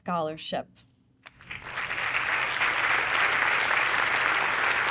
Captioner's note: audience clapping